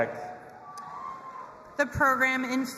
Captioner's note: audience applauding and cheering